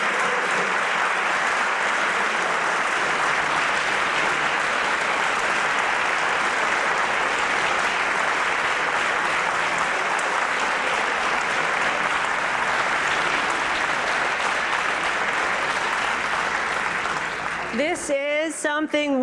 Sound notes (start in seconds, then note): 8.7 applause